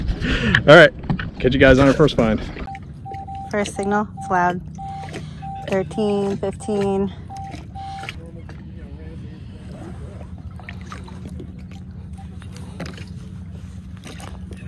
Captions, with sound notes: Alright, catch you guys on our first find. [beep beep] First signal, it's loud. 13...15